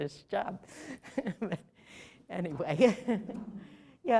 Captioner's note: laughter